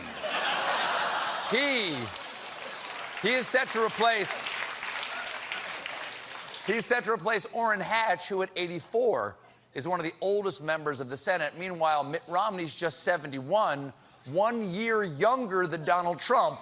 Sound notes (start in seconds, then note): 0.0 laughter; 4.2 applause